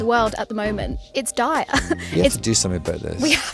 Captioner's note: laughs